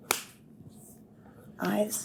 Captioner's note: slapping sound